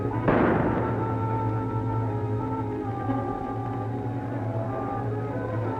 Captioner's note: dramatic music; guns firing